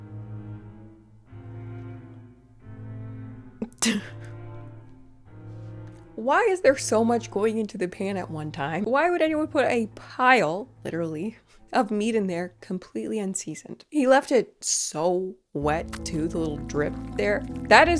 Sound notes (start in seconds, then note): 3.6 chuckling